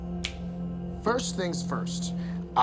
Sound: fingers snapping

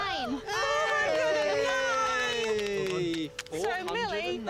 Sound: cheering

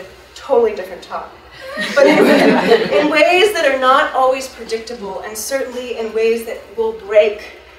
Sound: audience laughs

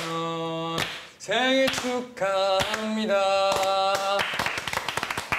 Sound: clap clap clap

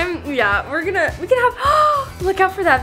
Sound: gasps

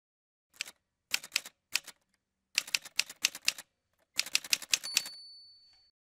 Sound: typewriter Sounds

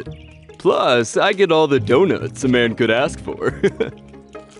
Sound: chuckles

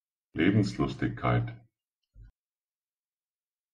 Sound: fast Pronunciation

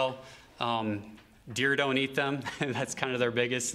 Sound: laughter

